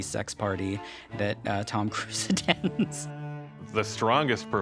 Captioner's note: chuckles